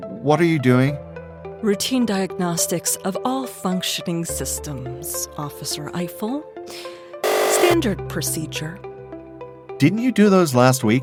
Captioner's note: buzzer